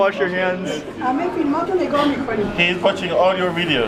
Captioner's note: woman speaking in foreign language